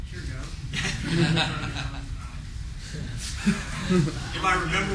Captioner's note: laughter